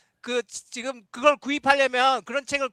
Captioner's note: non-english speech